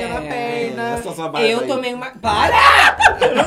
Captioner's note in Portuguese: Blogueirinha grita; risos